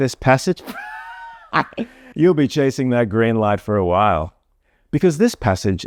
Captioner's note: wild laughter